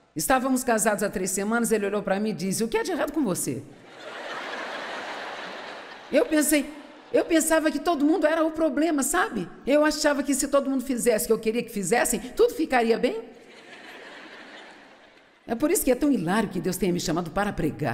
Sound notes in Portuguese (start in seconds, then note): 3.8 público rindo